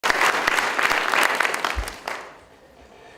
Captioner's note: audience Applauding